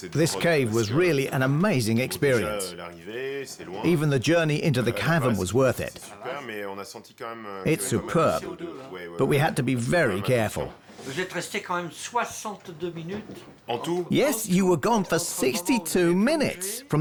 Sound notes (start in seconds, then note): 11.0 speaking French